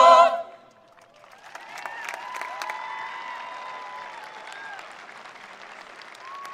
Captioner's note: attendees applauding; attendees cheering